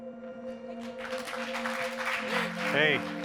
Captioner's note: audience members applauding